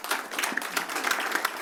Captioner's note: applause